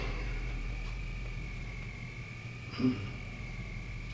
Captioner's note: Dave sighs